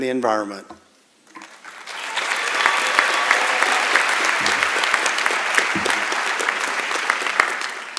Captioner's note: applause